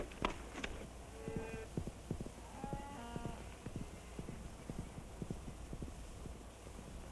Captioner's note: horse clomping; cows mooing